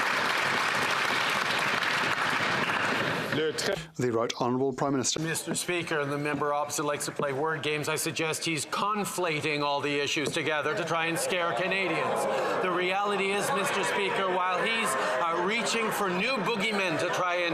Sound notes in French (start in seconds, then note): 9.9 voix de l'interprète